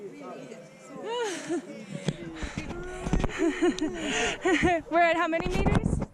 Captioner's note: group chatting